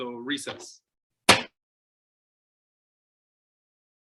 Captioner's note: thudding